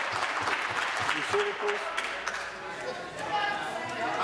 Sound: applause

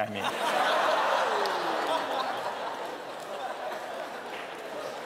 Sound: laughter

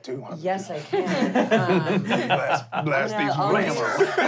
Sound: laughing

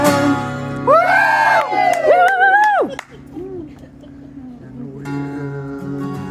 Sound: lots of yelling

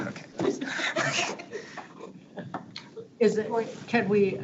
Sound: laughs

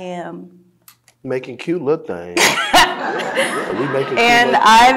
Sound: audience laughing

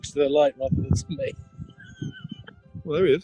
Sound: chuckling

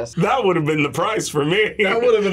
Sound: laughs

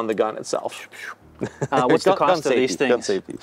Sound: laughs

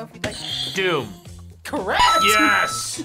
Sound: buzzer rings

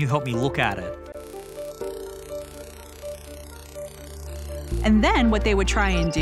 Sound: distorted hissing

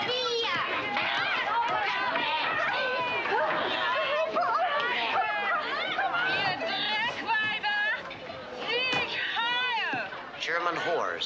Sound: loud yelling

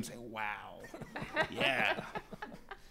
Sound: laughing

